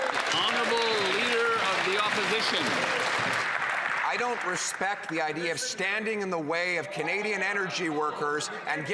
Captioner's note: some Applause